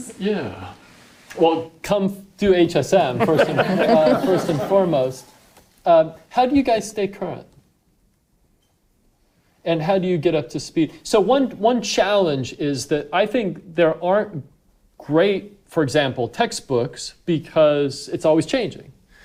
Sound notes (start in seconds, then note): 3.1 audience laughing